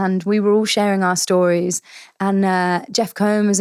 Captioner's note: none